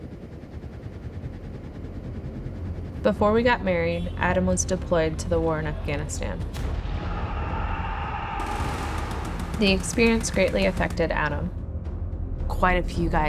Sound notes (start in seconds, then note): 0.0 helicopter rotors whirring; 8.4 bombs exploding in the distance